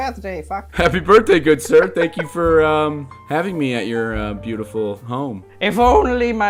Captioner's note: laughter